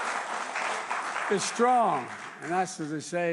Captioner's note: applause